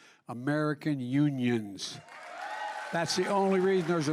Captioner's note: applause